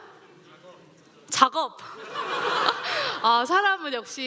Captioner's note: laughter